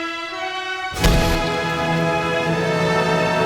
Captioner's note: revolver fired